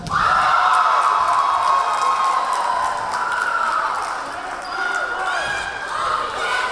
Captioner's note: cheering; clapping; yelling